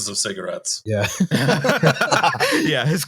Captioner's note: laughter